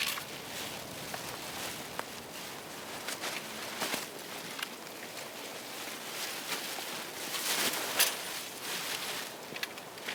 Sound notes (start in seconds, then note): 2.8 paper crackling; 2.8 wind whooshing